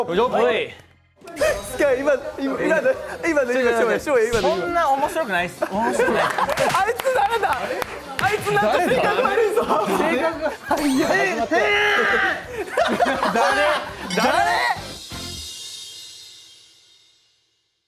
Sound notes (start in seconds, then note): 9.8 laughs